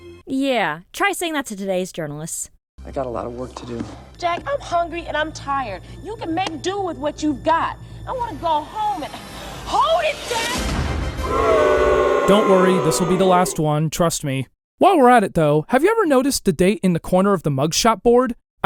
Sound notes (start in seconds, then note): 11.2 audience booing